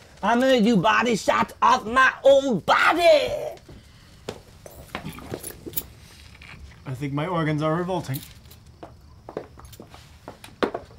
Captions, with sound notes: - I'm gonna do body shots off my own body! (stomach churns) - I think my organs are revolting.